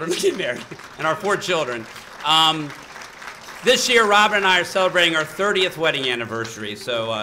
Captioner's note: applause